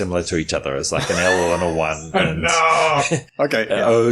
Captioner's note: laughs